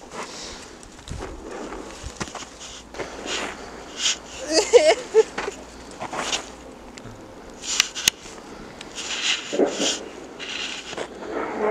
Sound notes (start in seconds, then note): 4.3 continues crying